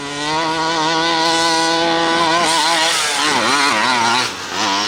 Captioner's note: truck engine revving